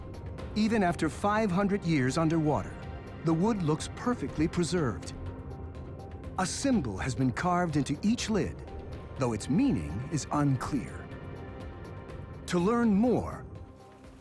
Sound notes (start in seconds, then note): none